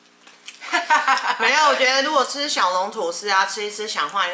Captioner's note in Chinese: 哈哈哈